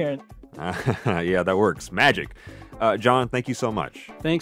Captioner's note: chuckles